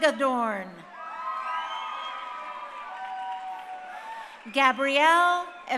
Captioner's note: crowd cheering